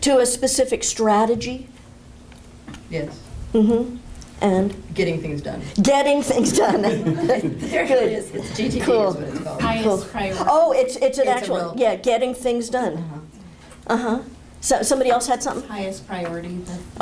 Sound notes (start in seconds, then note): 6.3 laughter